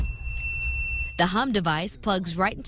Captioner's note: click..... beep